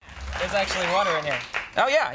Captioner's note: audience applauding